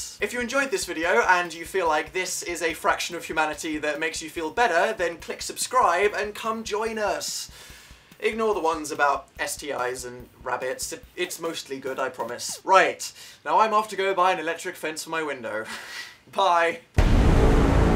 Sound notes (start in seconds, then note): 7.5 sighs; 15.7 nervous laugh